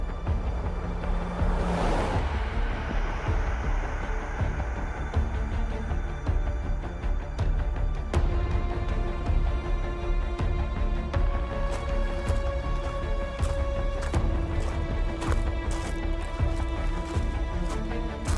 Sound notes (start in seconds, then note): 11.6 shoes shuffling